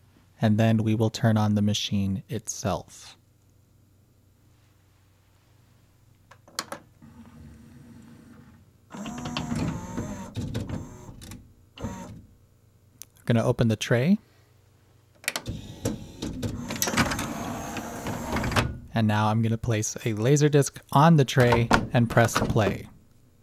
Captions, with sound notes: And then we will turn on the machine itself. [various motors pulse briefly] Gonna open the tray. [loud whirring as tray opens] And now I'm gonna place a Laserdisc on the tray and press play.